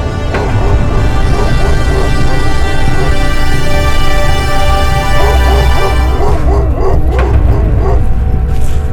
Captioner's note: dogs barking at a distance